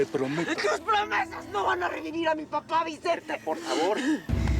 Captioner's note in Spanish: sollozos